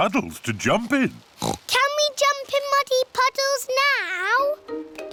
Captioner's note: oinks